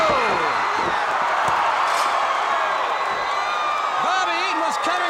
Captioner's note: audience cheering